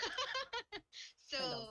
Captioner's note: laughs